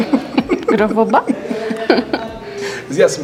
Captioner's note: laughs